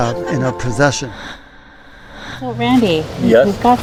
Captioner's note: swooshing